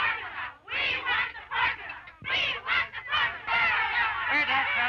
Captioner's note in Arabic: يستمر الهتاف